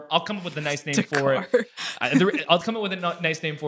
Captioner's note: laughs